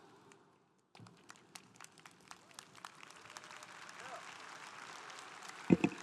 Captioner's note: congregation applauding